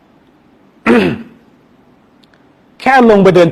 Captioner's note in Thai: เสียงไอ